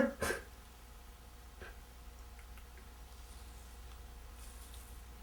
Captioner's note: sobbing quietly